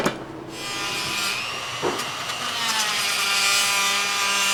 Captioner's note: grinding noisily